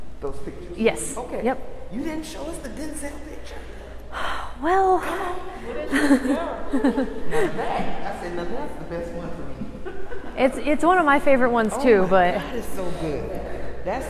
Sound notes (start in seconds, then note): 5.7 chuckles